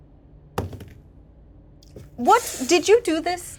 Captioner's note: die rolling